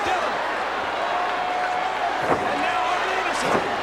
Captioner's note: crowd cheers